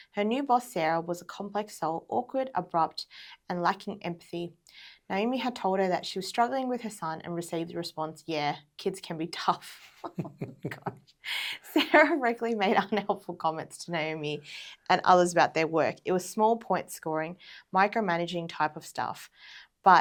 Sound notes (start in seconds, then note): 9.9 both laughs